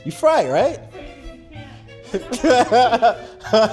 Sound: laughing

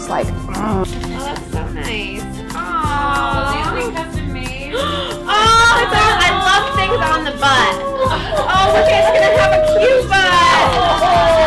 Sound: laughing

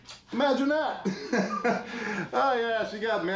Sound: laughs

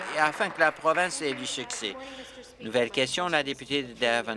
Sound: applause

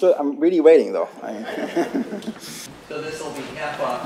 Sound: laughter

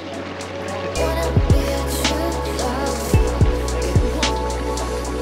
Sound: water bubbling

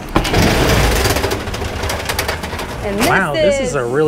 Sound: compartment door slides open

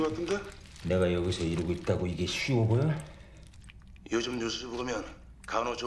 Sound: men speaking in foreign language

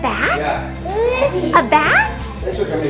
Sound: cooing

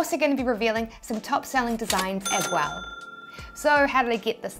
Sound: ting Sound

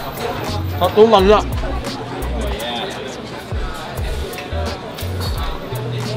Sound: speaking in Malay

